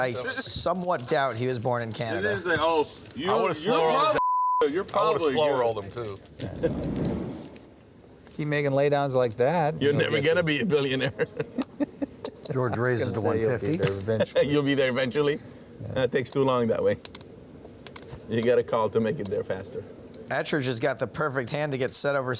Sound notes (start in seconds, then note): 4.2 beep; 9.9 laughing; 14.4 laughing